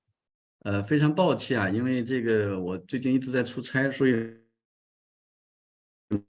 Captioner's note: speaking in Chinese